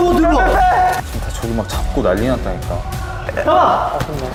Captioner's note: sounds of a scuffle from afar